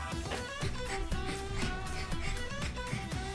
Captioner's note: pants